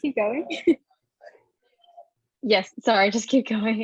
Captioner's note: laughing